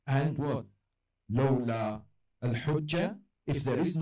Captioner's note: Arabic